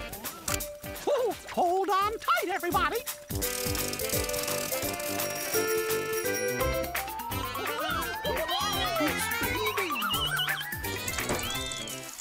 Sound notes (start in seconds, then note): 1.8 chuckling; 5.4 cranking, jingling